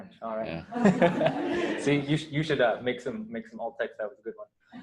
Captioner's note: laughter